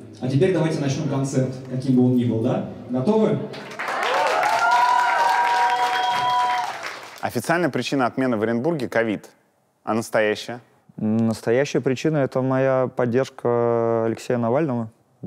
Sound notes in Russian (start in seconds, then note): 3.5 аплодисменты